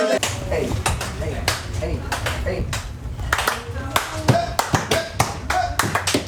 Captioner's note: rhythmic clapping punctuated by "hey"s